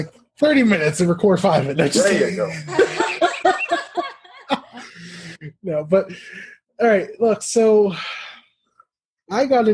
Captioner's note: laugh